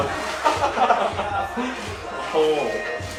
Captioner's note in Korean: 하하하하하하하